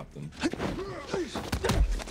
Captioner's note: both grunting